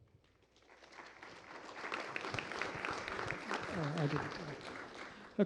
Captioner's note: applause